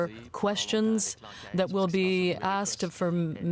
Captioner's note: speaking French